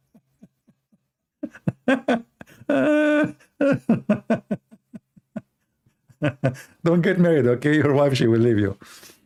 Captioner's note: Ketawa